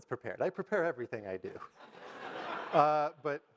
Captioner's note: audience laugh